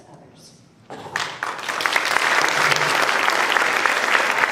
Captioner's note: applause